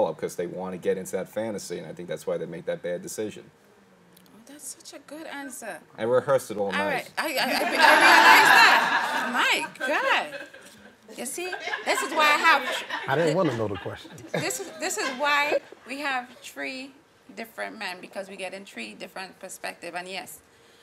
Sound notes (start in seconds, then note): 7.4 laughing